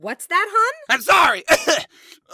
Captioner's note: coughs